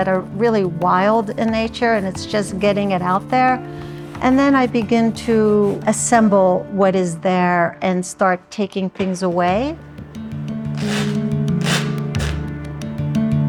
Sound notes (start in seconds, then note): 11.5 shirt ripping